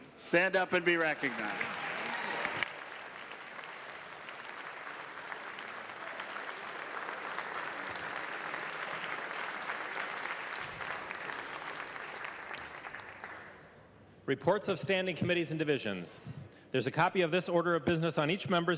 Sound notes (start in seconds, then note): 13.2 clapping